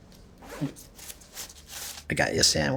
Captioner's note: zip crunching